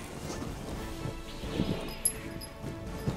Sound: jingling and couch noises

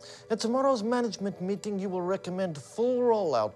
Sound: none

